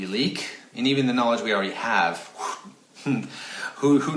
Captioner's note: blowing out air